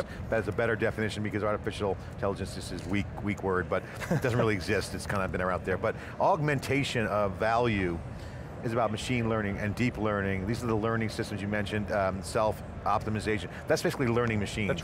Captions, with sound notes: That's a better definition because artificial intelligence is this weak, weak word. (laughing) It doesn't really exist, it's kind of out there. But, augmentation of value is about machine learning and deep learning. These are the learning systems you mentioned. Self-optimization, that's basically learning machines.